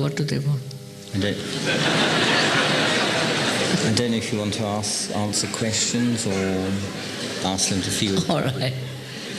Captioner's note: laughter